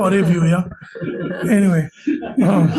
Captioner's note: laughter